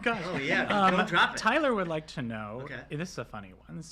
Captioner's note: laughter